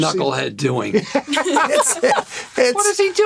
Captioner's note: laughter